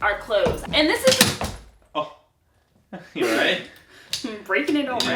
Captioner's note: gasp